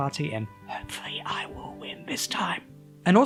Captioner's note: whispers